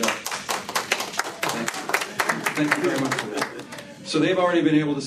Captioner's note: applause